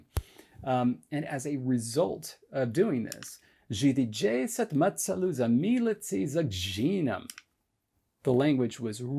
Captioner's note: speaks in Megdevi